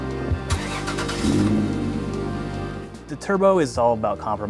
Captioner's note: engine starting